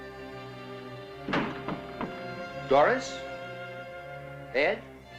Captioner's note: suspenseful music; blow